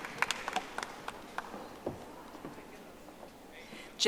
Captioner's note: audience applauding